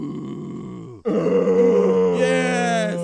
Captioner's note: grunting